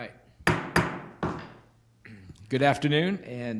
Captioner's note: knocking